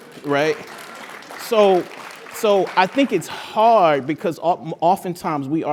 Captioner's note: applause